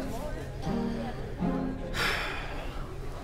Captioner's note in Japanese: ため息